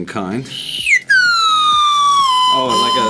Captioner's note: candy whistles